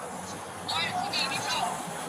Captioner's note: indistinct phone chatter